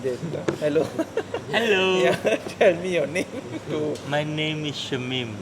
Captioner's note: laugh